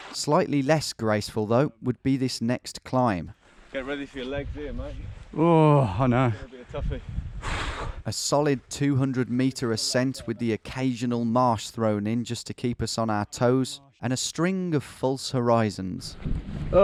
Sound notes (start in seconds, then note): 5.4 groans; 7.7 sighing